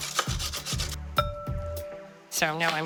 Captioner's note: light clanging